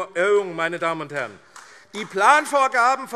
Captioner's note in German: Beifall AfD